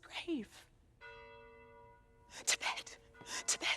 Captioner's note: bells toll